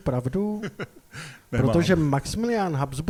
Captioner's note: laughter